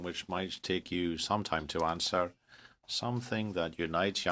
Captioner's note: speaking in french